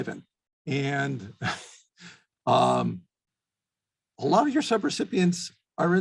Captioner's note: chuckles